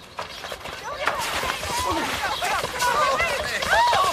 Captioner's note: all shouting